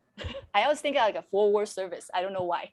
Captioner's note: moderator laughing